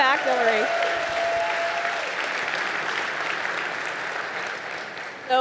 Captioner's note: audience applauding